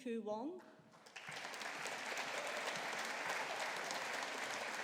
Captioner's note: audience applauding